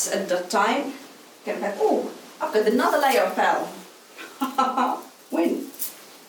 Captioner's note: laughs